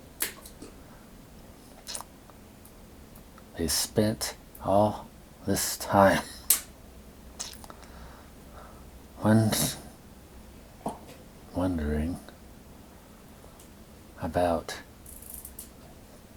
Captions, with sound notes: They spent all... this time... (Coughing) ...wondering... (Coughing) ...wondering... ...about...